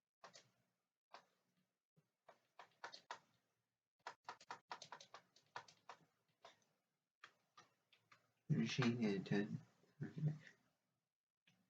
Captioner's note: tapping of keyboard